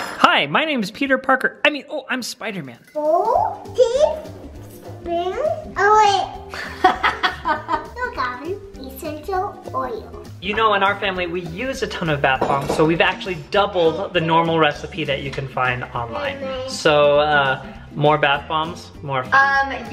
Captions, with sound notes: Hi, my name is Peter Parker. Oh I'm spider man. - Four teaspoon oil. (laughing) - No Calvin. Essential oil. - You know in our family, we use a ton of bath bombs so we've actually doubled the normal recipe that you can find online. So more bath bombs, more fun.